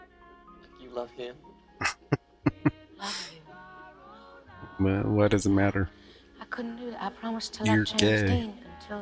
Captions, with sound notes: [Chuckling] Well, why does it matter? You're gay.